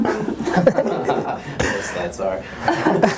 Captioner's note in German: Lachen; Voice-over; murmelt